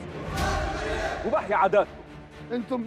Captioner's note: crowd hailing